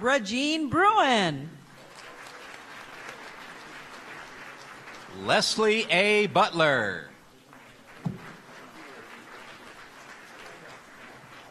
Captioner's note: applause; applause